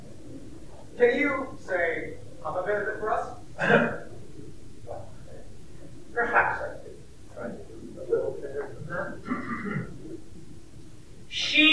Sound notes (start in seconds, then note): 3.8 clears Throat